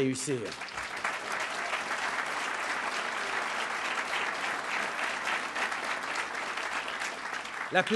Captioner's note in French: Applaudissements